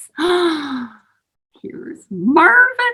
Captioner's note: gasps